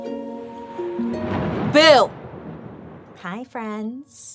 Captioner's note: thunder rumbles